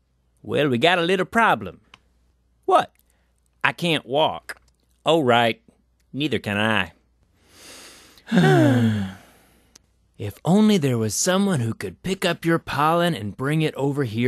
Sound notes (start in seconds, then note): 7.6 both sigh